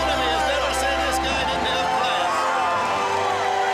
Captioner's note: crowd cheering